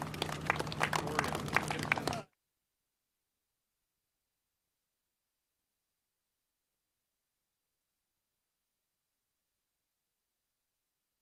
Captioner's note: applause